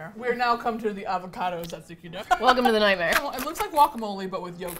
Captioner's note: laughs